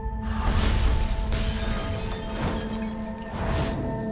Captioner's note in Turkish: Patlama sesi